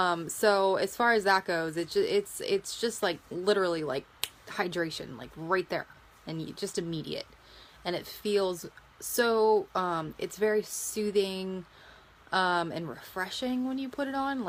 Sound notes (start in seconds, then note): 4.2 snaps